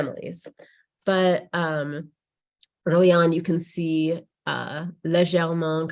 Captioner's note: speaks in French